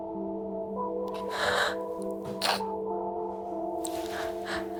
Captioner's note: crying